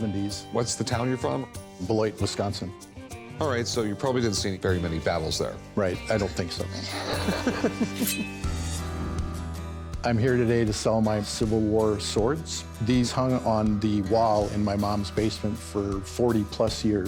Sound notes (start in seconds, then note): 6.7 laughs